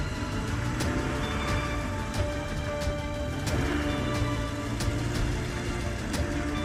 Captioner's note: engine revving; suspenseful music continues